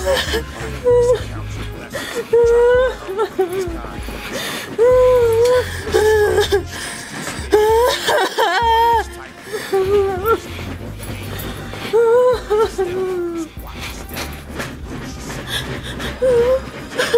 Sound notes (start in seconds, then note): 0.6 Renee cries